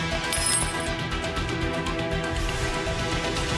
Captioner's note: bauble jingles